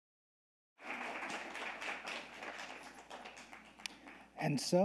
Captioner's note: audience applauding